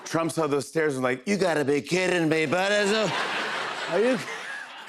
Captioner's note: As Trump